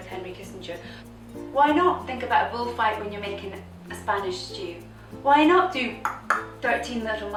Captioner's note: SFX clicking tongue